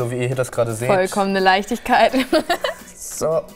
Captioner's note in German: lacht